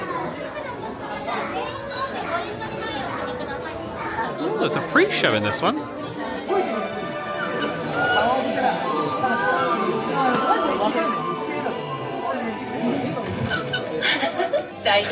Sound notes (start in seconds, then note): 7.5 bird chirping